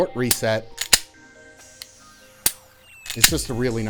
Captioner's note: gun clicking